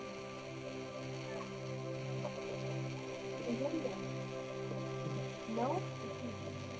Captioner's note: gentle music continues; tourists chattering